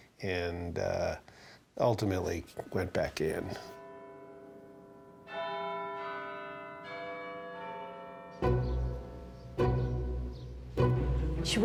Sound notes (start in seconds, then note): 3.8 bells chiming; 8.4 string music